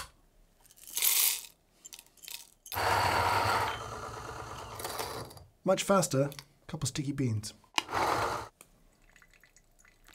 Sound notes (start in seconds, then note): 0.7 beans pouring; 2.7 grinder whirring; 7.8 grinder whirring; 8.9 coffee sloshing